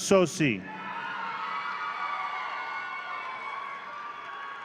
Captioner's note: audience cheering